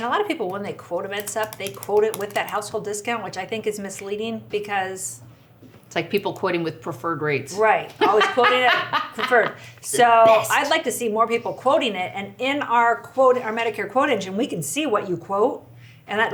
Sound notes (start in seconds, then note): 8.0 laughs